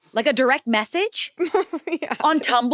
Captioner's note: laughs